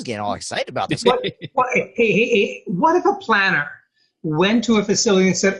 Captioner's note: laughing